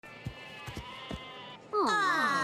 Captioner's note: walking; sheep bleating